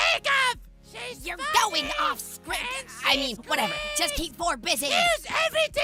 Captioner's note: whispering